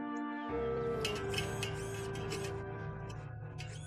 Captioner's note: whining